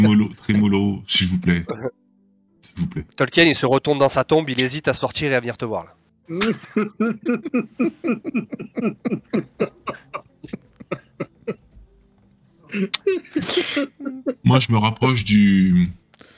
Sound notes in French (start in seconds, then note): 4.1 rires